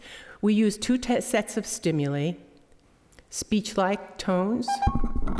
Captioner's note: beeping